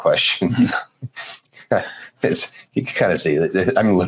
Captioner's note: laughing